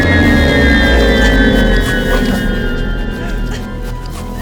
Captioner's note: groaning